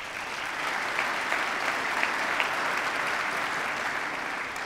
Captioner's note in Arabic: تصفيق